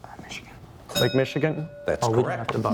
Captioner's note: bell dings